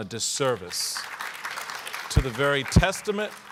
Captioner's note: audience applauding